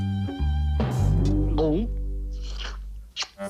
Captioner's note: swallows